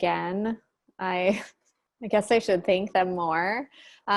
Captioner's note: chuckles